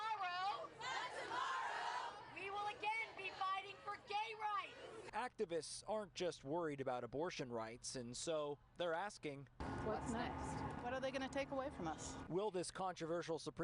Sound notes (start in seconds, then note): 0.7 chanting